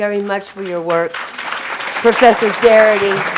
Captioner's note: audience applauding